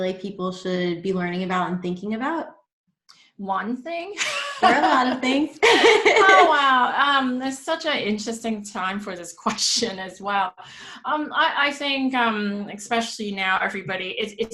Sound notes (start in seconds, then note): 4.2 laughs